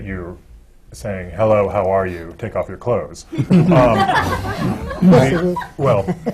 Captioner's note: laughter